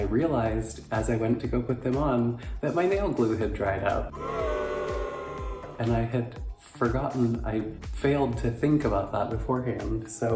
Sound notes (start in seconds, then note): 4.1 crowd booing